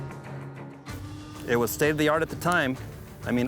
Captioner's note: hammer clicks